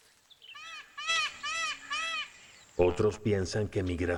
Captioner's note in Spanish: graznidos